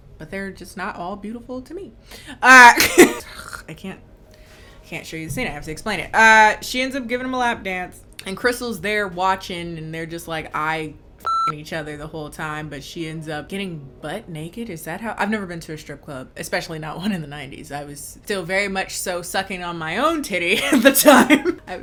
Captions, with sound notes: but they're just not all beautiful to me. Ugh, I can't, I can't show you the scene, I have to explain it. She ends up giving him a lap dance and Crystal's there watching and they're just like, eye-(beep) each other the whole time, but she ends up getting butt-naked, is that how? I've never been to a strip club, especially not one in the 90s. I was still very much so sucking on my own titty at the time. (laughing)